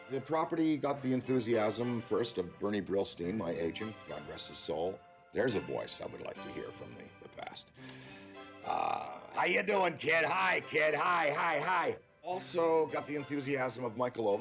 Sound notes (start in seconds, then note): 8.9 imitating Brillstein